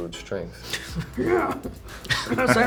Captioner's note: grunting; laughter